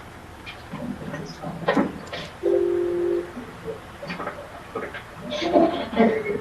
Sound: people chattering faintly

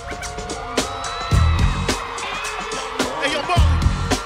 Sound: cheering

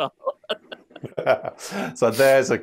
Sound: laughter

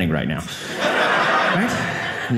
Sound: audience laughing

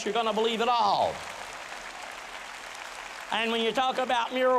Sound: boisterous applause

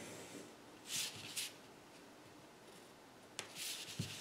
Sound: paper shifting

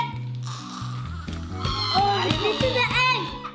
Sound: screaming

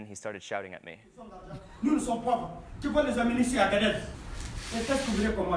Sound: speaks in foreign language

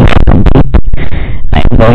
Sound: breathes in

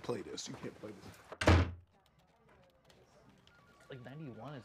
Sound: door slams

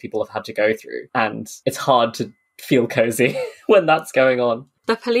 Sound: laughing

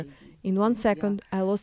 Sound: speaking Foreign Language

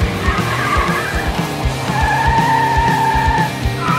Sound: tires screeching

